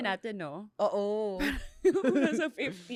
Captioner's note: laughs